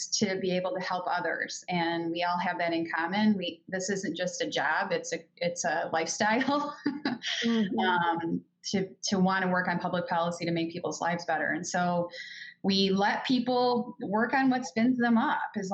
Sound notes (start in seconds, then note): 7.1 laughs